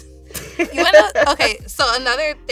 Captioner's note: laughing